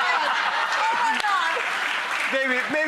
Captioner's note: laughter